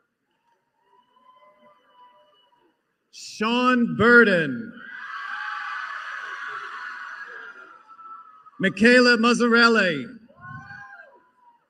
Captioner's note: applause